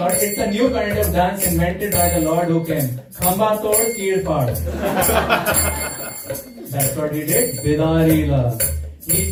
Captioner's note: laughter